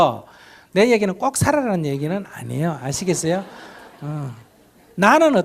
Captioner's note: audience laughter